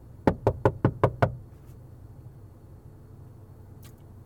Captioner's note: loud knocking